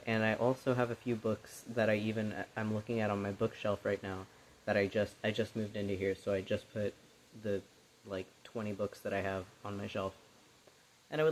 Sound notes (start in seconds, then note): none